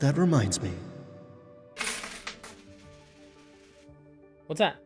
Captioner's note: coins clatter